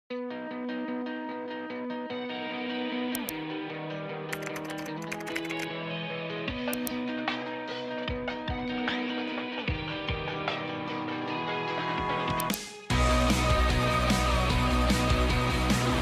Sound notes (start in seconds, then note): 0.4 upbeat music; 4.3 keyboard keys tapping; 6.8 upbeat music